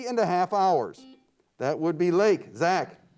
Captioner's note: buzzer beeps